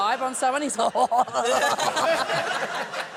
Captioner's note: laughs creepily